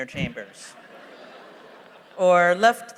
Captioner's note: laughter